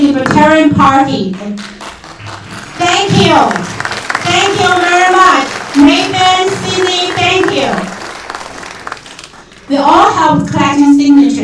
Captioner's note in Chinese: 掌声; 掌声